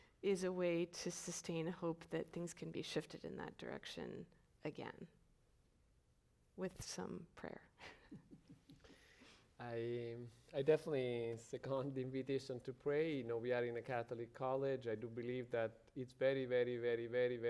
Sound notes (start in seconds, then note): 7.9 chuckles